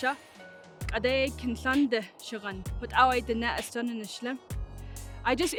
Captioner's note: speaking in Native language